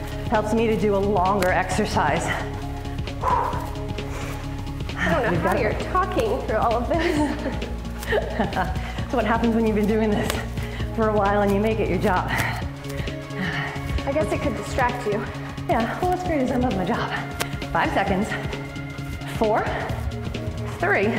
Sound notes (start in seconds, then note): 2.2 exhale; 6.9 laughter